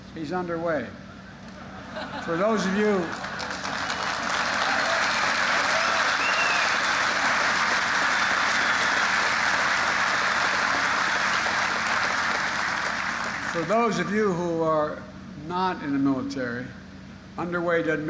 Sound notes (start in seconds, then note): 1.5 laughter; 4.6 applause